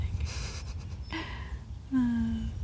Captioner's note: laughs